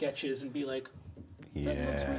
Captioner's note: fingers drumming gently